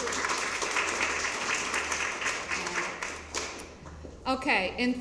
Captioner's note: applause; applause continues